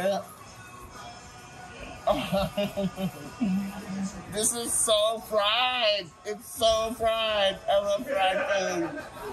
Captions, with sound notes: (chuckles) This is so fried. It's so fried. I love fried food!